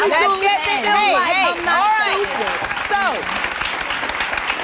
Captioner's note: audience applauds